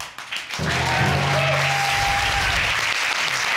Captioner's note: audience cheering